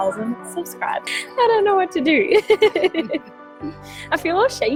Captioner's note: laughs